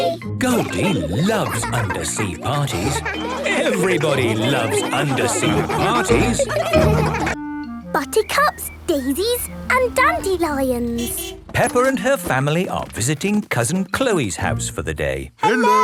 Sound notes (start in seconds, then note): 6.4 laughter